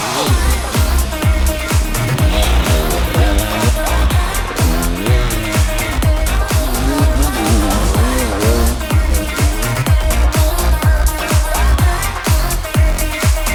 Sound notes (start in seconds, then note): 0.1 upbeat music; 2.7 bike engine revving